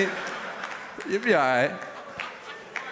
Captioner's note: laughter